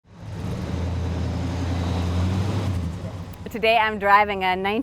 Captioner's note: car engine revving